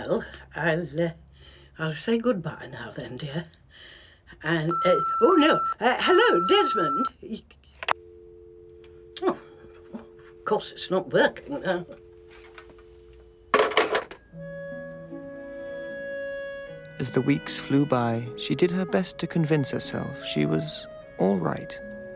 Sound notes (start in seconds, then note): 4.6 answering machine beeps; 7.9 dial tone humming; 14.3 light orchestral music